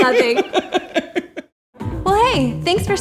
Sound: laughter

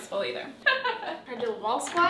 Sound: laughs

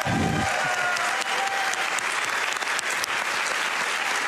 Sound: applause

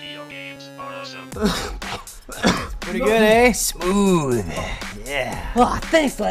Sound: coughs

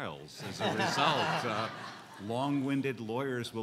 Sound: laughing

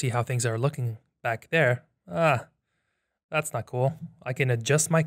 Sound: groans

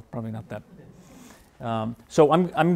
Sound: laughing

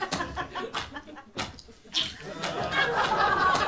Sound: squelching footsteps; disgusted groans and laughter

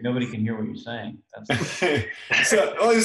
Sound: laughing

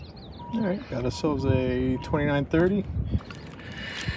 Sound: beep beep

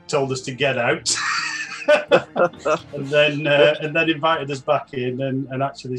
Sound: laughing

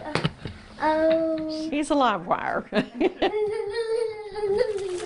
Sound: laughs

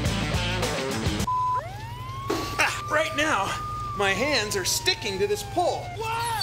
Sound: siren wails

